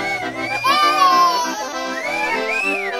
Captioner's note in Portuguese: grita